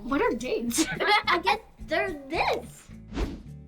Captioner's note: laughs